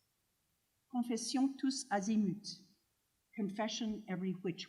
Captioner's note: speaking french